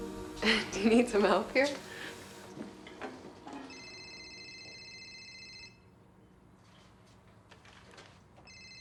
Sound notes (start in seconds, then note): 3.4 telephone ringing